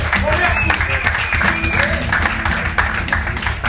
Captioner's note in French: Applaudissements